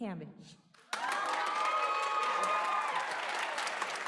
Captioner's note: applause